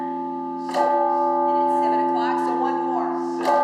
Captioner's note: bell rings